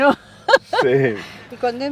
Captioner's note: laugh